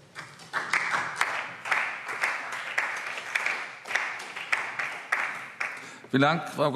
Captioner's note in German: Beifall DIE LINKE, vereinzelt CDU, BÜNDNIS 90/DIE GRÜNEN und SPD